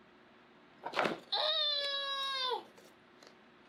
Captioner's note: squeals